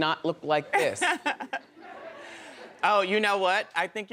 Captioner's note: laughing